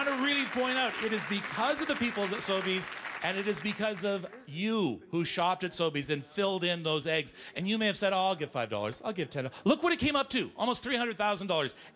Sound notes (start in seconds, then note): 3.3 cheers and Applause